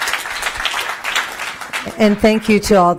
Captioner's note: applause